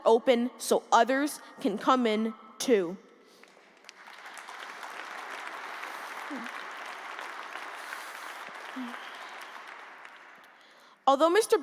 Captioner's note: applause